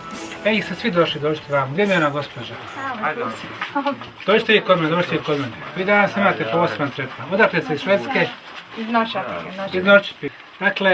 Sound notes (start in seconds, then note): 4.8 chatter